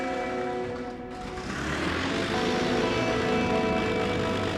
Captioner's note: plane roaring